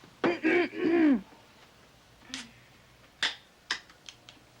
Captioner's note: Marcia clears throat